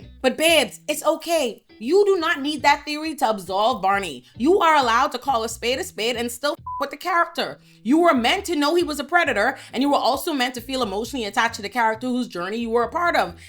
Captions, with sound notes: But babes, it's okay. You do not need that theory to absolve Barney. You are allowed to call a spade a spade and still (beep) with the character. You were meant to know he was a predator, and you were also meant to feel emotionally attached to the character whose journey you were a part of.